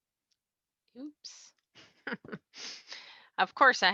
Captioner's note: laughs